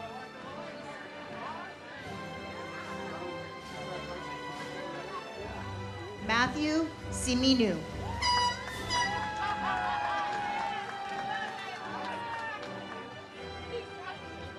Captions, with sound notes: (ceremonial music) Matthew Simino. (audience cheers)